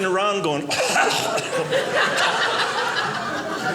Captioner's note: choking